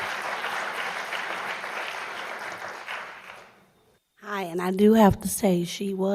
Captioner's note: applause